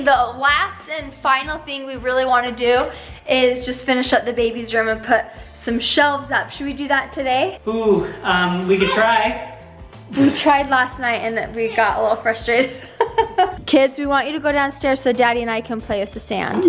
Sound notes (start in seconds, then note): 12.4 laughs